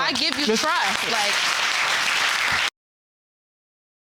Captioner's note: audience applauding